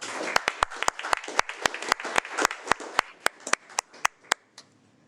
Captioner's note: audience applauding